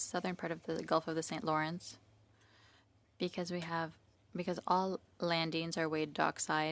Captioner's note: speaking French